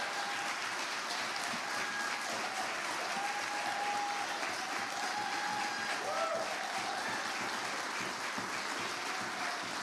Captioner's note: applause